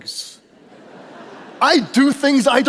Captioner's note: audience laughing